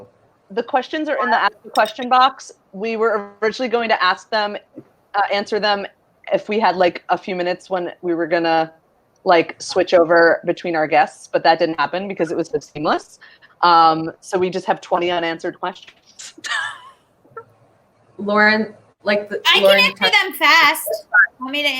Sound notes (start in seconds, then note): 16.6 laughs